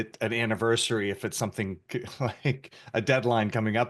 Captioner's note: laughs